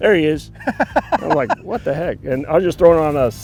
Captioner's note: laughing